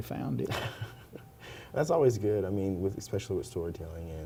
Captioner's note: laughs